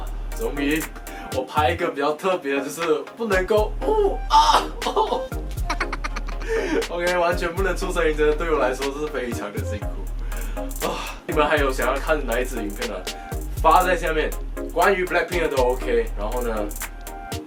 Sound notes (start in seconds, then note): 10.9 sigh